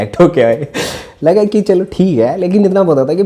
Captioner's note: laughs